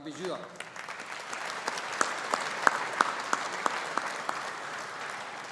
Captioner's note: audience applauding